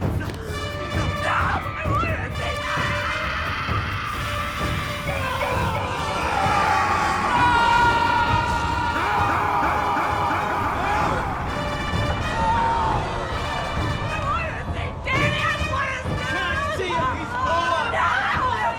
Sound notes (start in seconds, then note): 0.1 dark intense music; 2.6 Elaine screams; 5.2 Will screams; 6.3 James screams; 7.3 Butters screams; 9.0 Hutton screams; 12.1 dark intense music; 14.7 both screaming indistinctly